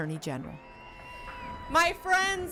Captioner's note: crowd cheering